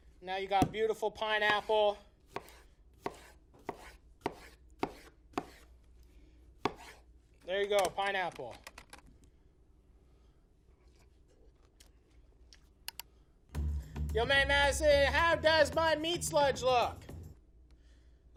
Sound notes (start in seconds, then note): 2.7 chopping